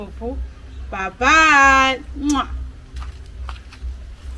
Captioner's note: kisses